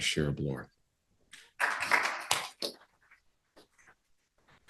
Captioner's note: applause